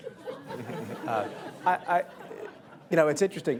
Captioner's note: laughter